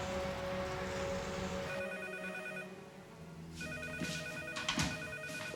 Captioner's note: telephone ringing